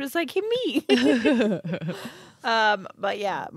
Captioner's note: chuckling